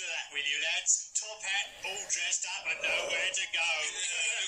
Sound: ignore my deep breath

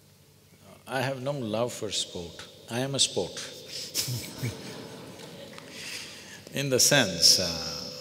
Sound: laughs

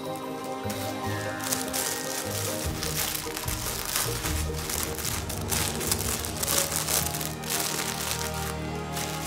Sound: toy crackling

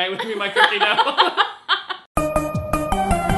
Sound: both laugh; intro music

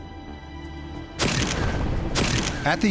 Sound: camera shutter

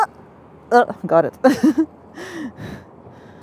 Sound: laughs

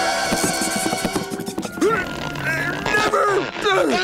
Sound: grunting

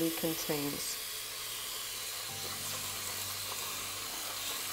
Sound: water running

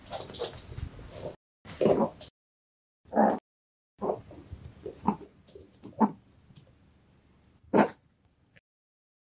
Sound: barking

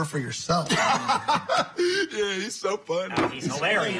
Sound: laughs

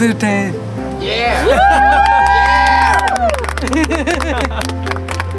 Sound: cheering; laughing

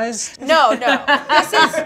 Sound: laughs

